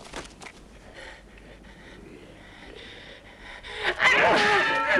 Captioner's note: Hundra panting; swords clanging